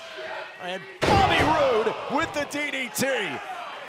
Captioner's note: crowd chatter; crowd cheering